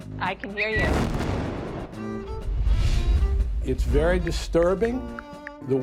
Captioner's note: explosion booming